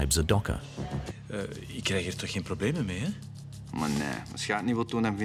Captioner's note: Dutch spoken audio